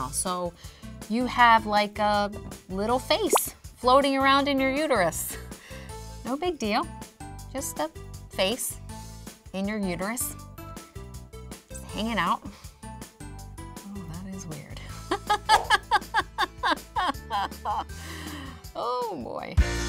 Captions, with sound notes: so you have, like, a little face floating around in your uterus. No big deal. Just a face. In your uterus. Hanging out. Oh, that is weird. (nervous laughing) Oh boy.